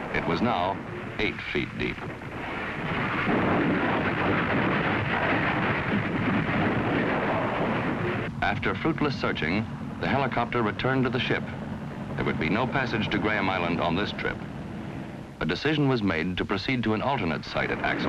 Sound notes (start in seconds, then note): 2.6 ice rumbling